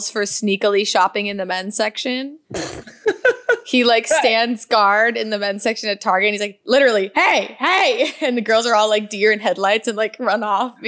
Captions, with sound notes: for sneakily shopping in the men's section. (laughs) He stands guard in the men's section at Target and he's like literally, hey, hey, and the girls are all like deer in headlights and run off